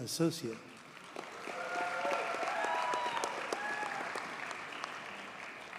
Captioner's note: audience cheers and applauds